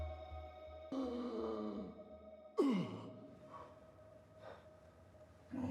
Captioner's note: Van Helsing gasping for air